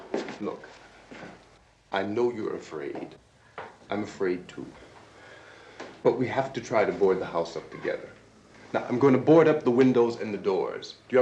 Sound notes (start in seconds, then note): none